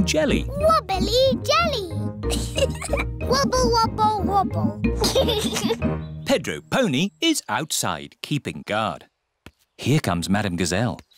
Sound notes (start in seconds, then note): 2.2 giggles; 4.9 giggles